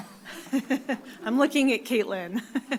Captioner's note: laughs